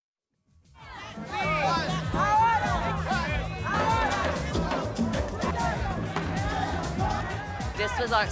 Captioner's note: parade noise